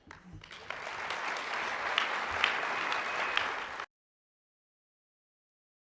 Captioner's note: applause